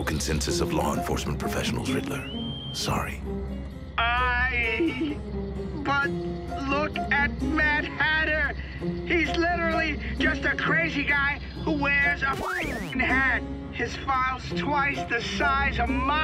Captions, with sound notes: of law enforcement professionals, Riddler. Sorry. - I...but look at Mad Hatter! He's literally just a crazy guy who wears a [record skips] hat! His file's twice the size of mine!